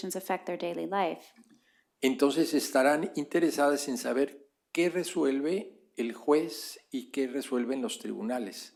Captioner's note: spanish